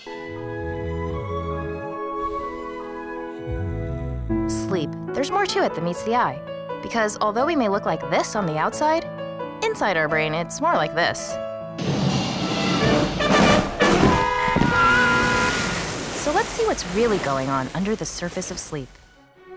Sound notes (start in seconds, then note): 0.0 relaxing nature music; 4.4 voiceover